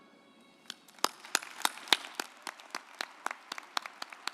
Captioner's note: applauding